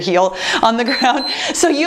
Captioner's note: timer beeps